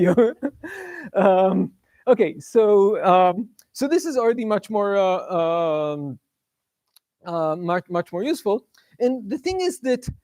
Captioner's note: laughs